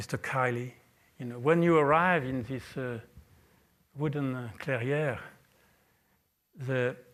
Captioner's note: french